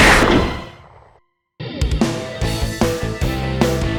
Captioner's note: gunshot